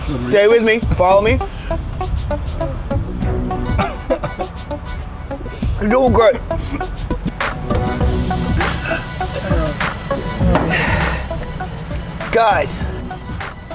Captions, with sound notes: Stay with me. Follow me. You're doin' great (Laughs) Guys...